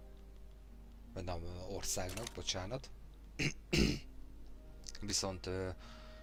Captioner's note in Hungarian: köhögés